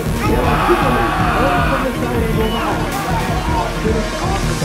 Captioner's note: team cheers